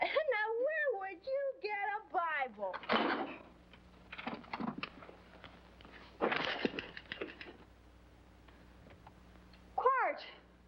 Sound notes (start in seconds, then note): 2.8 glass smashing; 6.2 mattress creaking